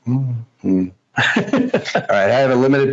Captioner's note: laughs